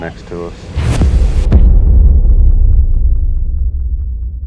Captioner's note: bomb exploding